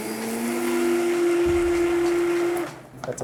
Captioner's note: motor whirring